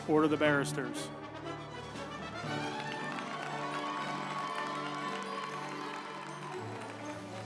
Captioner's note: uplifting music; group applauding